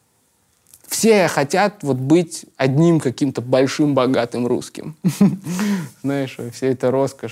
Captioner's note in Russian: смеется